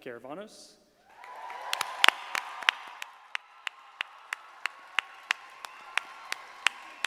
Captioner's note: audience applauding; clapping